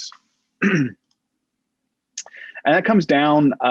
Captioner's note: clears throat